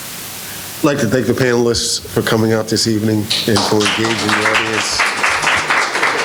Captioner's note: applause